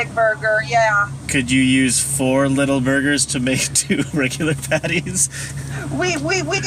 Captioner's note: laughs